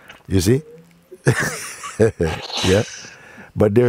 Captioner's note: lacht